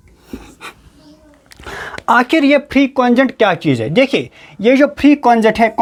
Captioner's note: nasal sound